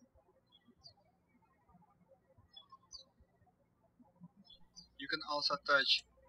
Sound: birds chirping

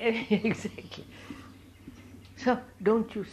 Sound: laughs

